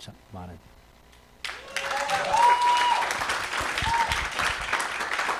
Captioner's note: cheering, applause